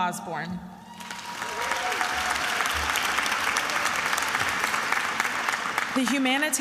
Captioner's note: attendees applauding and cheering